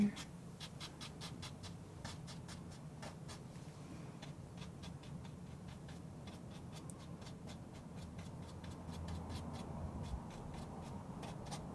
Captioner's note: scratching